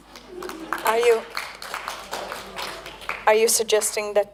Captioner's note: applause